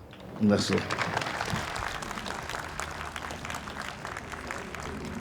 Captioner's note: audience applauds